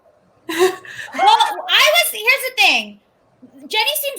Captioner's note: laughs